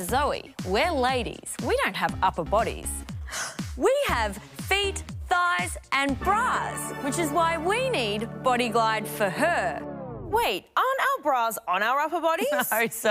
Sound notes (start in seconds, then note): 3.2 gasps